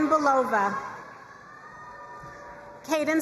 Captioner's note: crowd cheering and applauding